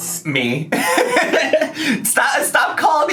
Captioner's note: laughs